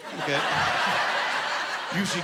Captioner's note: laughing